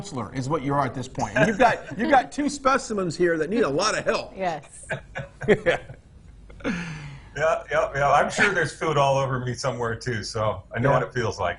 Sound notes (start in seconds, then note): 6.5 laughing